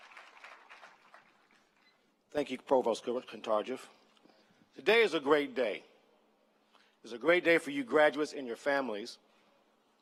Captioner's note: applause